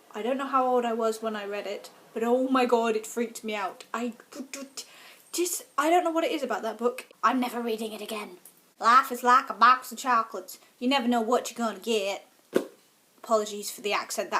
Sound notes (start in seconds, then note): 8.8 fake american accent